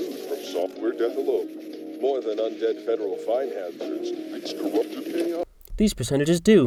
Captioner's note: audio from show